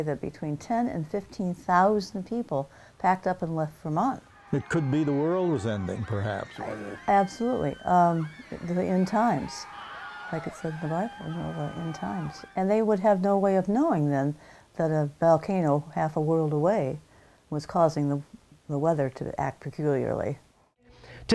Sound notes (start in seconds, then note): 4.7 screaming